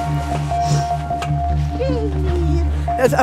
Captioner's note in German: Fröhliche Laute